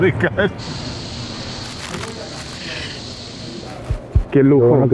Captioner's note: chuckles; pan sizzles; speaks Spanish